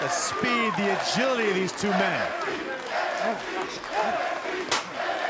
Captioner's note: fans chanting